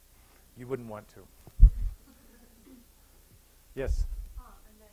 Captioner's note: laughter